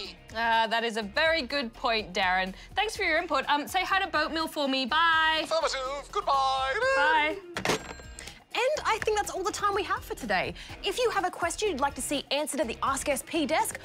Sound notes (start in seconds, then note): 7.2 laughs